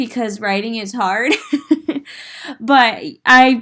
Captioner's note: giggling